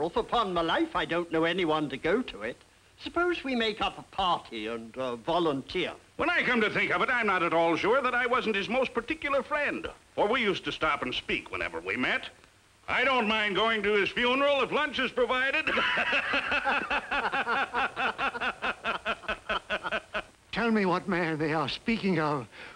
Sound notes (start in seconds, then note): 18.1 men laughing